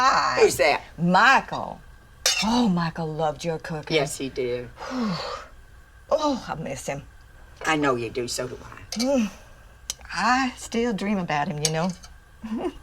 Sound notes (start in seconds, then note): 4.8 Dory exhales